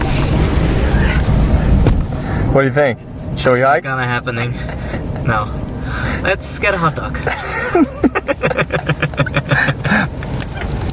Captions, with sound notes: - What do you think, should we hike? - Not happening, no, let's get a hot dog. (both laugh)